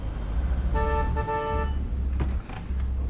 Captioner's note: horn honks